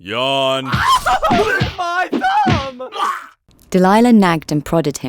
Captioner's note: sounds of violence; laughs